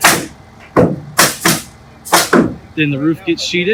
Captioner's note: nail gun firing